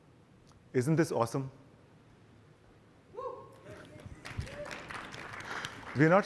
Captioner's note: applause